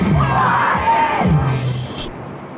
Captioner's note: crowd